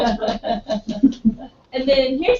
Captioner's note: laugh